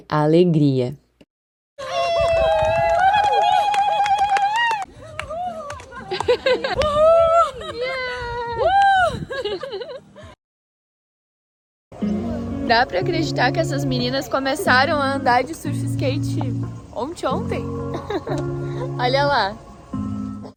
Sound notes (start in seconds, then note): 1.2 laughs; 2.0 applause